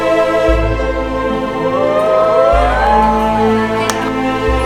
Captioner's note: cheering